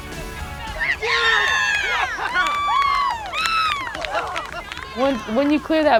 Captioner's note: cheering